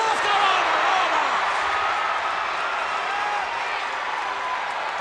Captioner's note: audience cheers